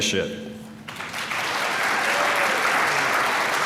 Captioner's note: applause